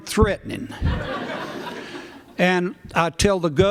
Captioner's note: laughter